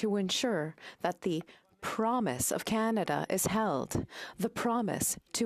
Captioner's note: speaking French